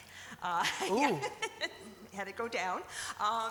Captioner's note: laughs